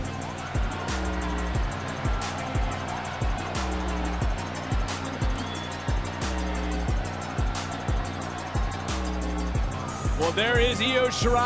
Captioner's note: crowd cheers